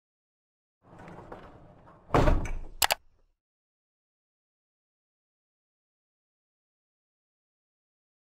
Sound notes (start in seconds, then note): 2.8 clicking